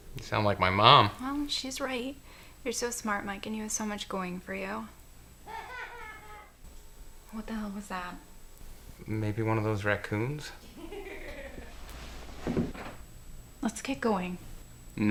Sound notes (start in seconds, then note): 5.4 laughing; 10.6 laughing